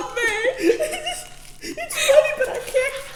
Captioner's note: unintelligible crying; sobbing